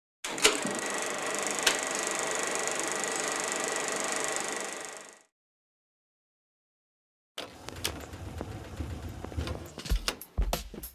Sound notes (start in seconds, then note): 7.5 slide projector runs